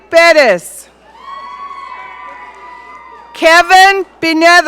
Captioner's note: audience cheering